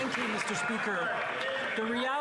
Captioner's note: some Applause